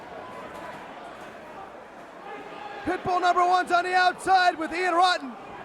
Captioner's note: crowd chatter